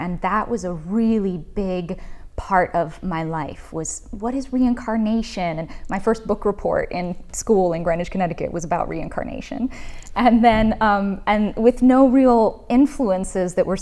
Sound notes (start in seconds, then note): none